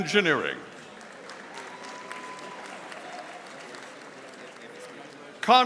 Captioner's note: audience applauding